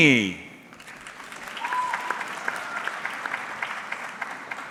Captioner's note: audience clapping